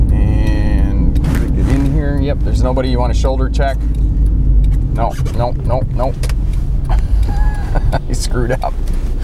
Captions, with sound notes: And can I get in here? Yup, there's nobody. You wanna shoulder check, nope, nope, nope, nope. (laughs) I screwed up.